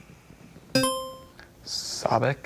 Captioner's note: buzzer chimes